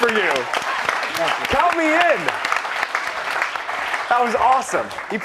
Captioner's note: cheers and applause